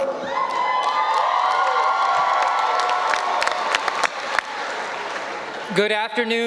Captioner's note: audience cheering